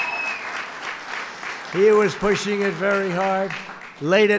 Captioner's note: applause